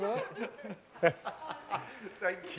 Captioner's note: all laughing